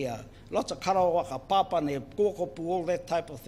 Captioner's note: foreign Language